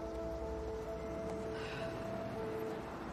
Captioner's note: sighing